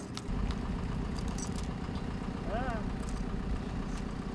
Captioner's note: engine idling